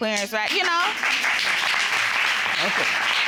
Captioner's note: audience applauding